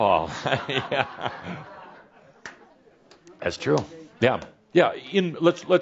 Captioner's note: some chuckles